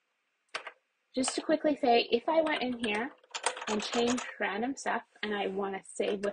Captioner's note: keyboard clicks; keyboard typing furiously